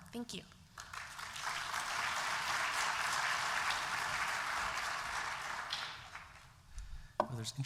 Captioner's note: applause